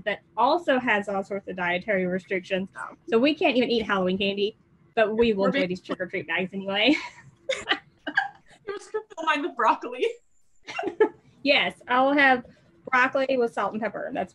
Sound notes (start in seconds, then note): 10.7 laughs